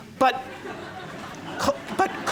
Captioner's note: laughter